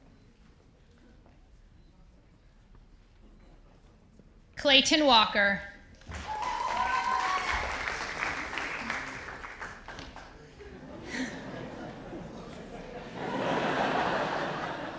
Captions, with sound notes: Clayton Walker. (audience applauding) (audience laughs)